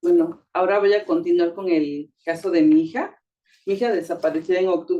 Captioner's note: speaking Spanish